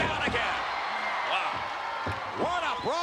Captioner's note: spectators cheering